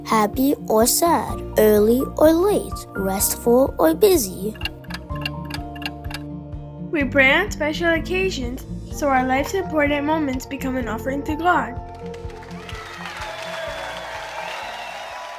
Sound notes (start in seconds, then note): 4.0 clock ticking; 12.1 crowd applause